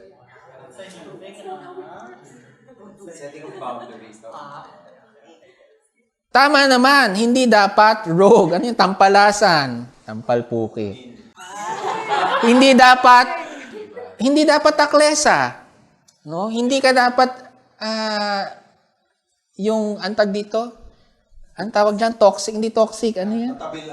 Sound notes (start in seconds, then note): 11.4 laughter